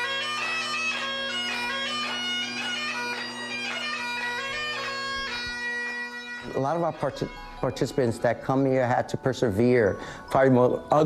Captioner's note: applause